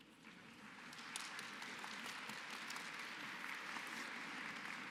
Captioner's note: applause